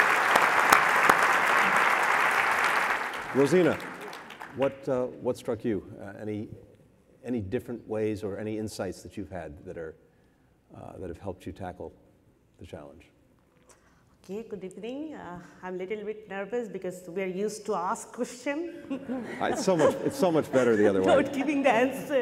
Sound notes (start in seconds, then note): 18.8 laughter